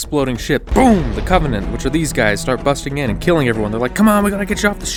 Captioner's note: boom!